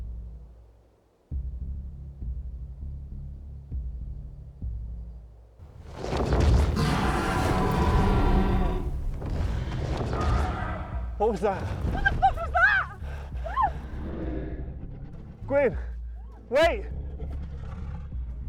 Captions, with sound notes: (dragons growl) What was that? - What the was? - What the fuck was that? Guine wait!